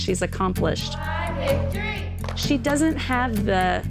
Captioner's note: girls cheering, clapping